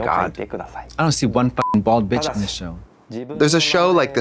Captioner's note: beep